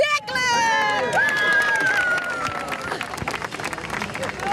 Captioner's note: crowd claps